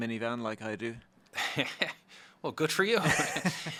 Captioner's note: laughs